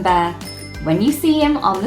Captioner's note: bicycle bell rings